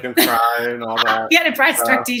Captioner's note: laughs